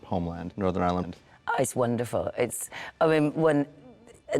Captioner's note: stammers